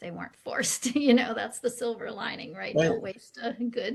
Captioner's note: chuckles